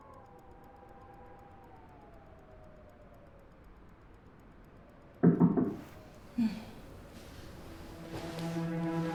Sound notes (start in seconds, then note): 5.2 loud knock at door